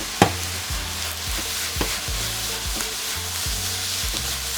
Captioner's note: pan contents rustling; glass dish bangs